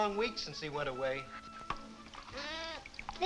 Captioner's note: goat bleating